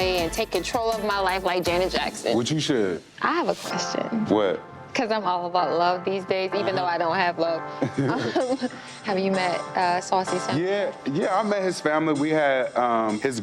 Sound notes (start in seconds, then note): 3.8 warm smooth music; 6.6 Zell mmhmms; 7.8 Zell laughs